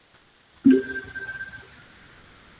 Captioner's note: notification rings